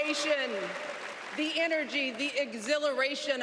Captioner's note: cheers and applause